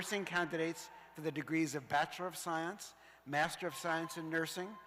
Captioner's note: cheers and applause